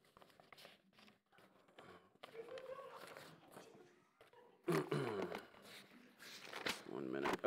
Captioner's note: flipping through papers